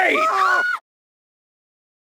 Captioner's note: woman screaming